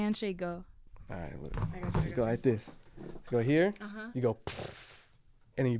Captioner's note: ppfffff